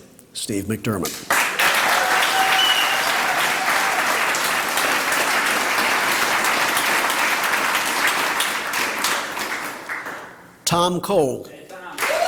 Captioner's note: applause; applause